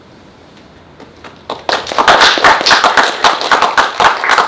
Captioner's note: audience clapping